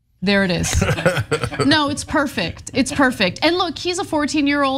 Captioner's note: laugh